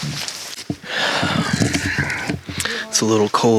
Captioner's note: breathes